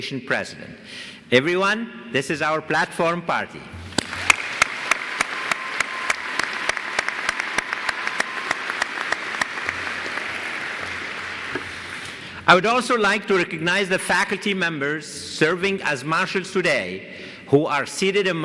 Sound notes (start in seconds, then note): 3.9 applause